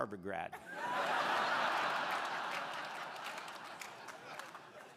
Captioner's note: crowd laughing